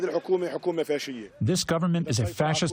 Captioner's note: through translator